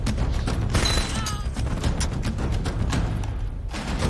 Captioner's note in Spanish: Quejido